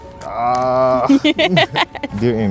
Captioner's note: laughing